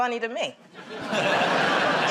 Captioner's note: laughter